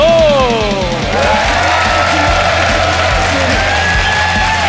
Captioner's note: applause, cheering; rock music plays